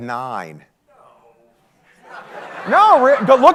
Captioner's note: audience laughing